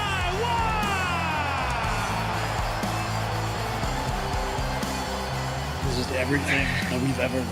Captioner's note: cheers and applause